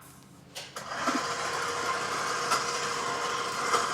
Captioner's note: mixer whirring